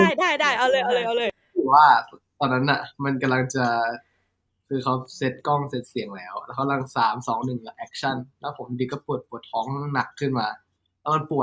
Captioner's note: tells story in Thai